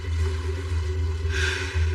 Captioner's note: sigighs